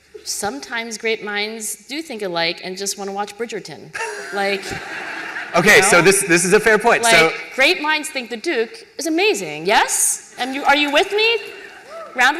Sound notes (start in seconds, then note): 3.9 laughter